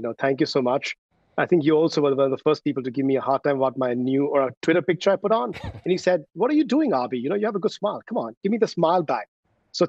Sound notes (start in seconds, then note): 5.5 laughs